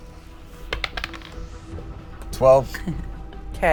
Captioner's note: dice rolls